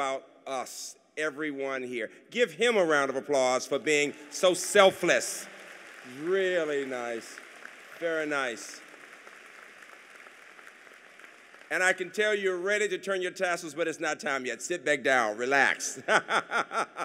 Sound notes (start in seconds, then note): 7.3 applause